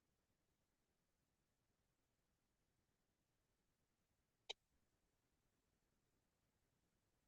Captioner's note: mouse clicking